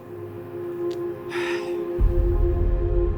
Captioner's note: sound of sighing